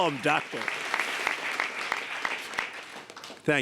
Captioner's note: applause